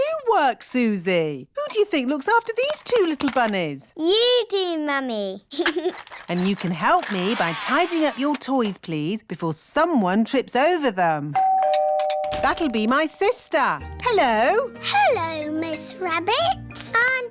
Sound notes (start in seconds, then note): 5.5 giggles; 11.3 doorbell rings